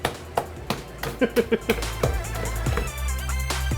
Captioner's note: laughing